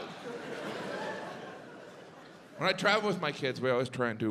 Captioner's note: audience laughs